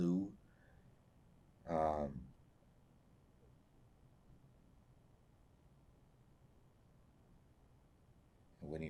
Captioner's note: pauses 8 seconds